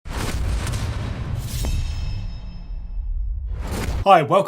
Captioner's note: thunder; sword clang